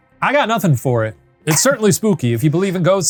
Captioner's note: chuckling